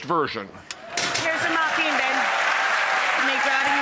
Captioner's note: applause